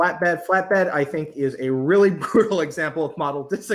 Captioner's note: laughs